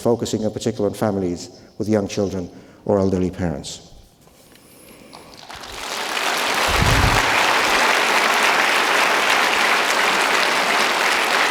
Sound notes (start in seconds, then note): 5.4 audience applauding